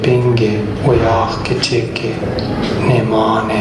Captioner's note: male voice speaking in Indigenous Myaamia language